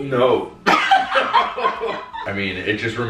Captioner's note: laughing